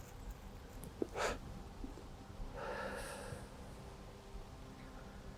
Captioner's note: Arawn inhales and exhales